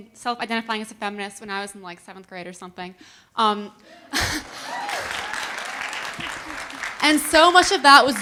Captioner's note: audience laughing and cheering